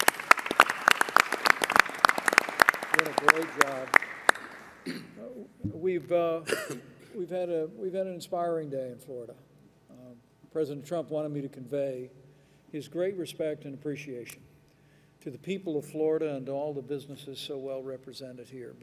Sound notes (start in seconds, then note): 4.4 applause